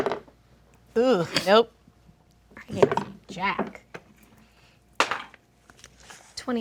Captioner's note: dice roll; dice roll